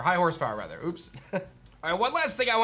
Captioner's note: chuckles